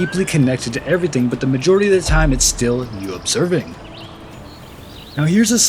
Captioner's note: birds chirping